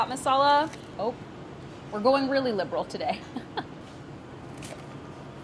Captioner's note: laughs